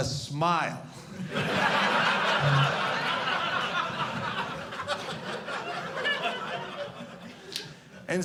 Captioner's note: audience laughing